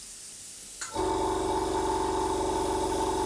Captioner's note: compressor hum